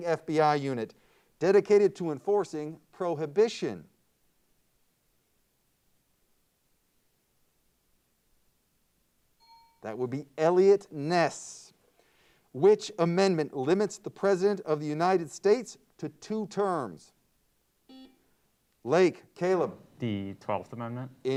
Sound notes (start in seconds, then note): 9.4 timer bell dings; 17.9 buzzer beeps